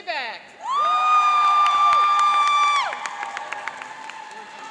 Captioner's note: cheering and applauding